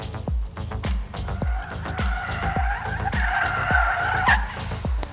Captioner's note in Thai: ปรบมือ